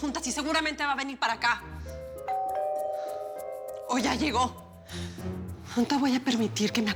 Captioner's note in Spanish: Timbre de la puerta